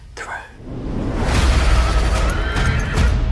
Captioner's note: dragon roars; horse whinnies